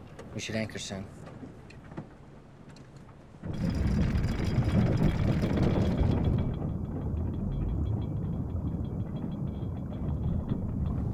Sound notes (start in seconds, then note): 3.4 water gurgling; 3.5 chain clanking